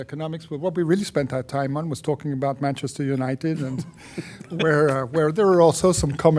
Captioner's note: laughter